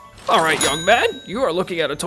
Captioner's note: cash register dinging